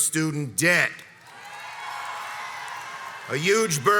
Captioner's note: crowd cheers and applauds